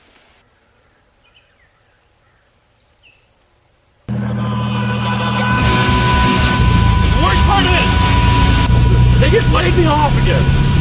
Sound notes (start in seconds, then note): 4.1 yelling